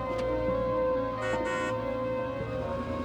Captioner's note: honks horn